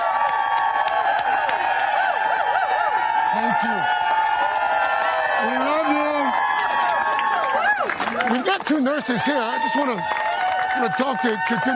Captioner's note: cheers and applause